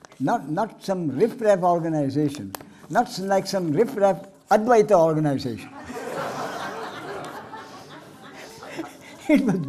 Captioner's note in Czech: smích